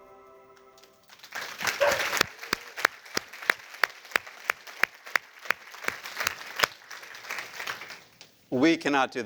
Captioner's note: applause